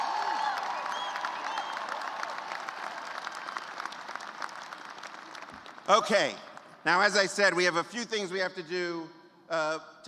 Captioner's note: cheers and applause